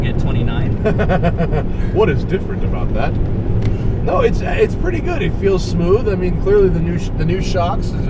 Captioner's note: laughs